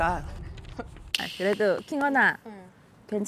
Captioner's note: persuading sound effect